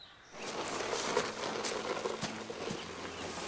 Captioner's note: dirt shifting; tense music